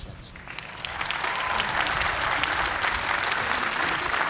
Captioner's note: applause